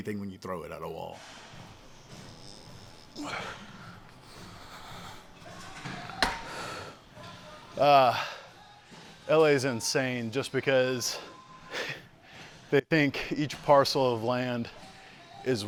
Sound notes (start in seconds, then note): 1.2 heavily breathing; 3.1 Johnathan grunting; 5.4 bar clanks; 6.2 exhaling